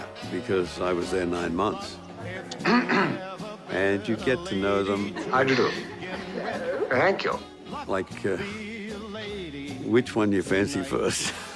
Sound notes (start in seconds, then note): 2.6 clears throat